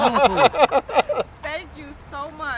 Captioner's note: people laughing